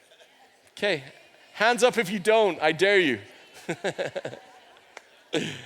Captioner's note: chuckles